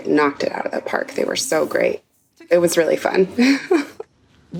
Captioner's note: chuckles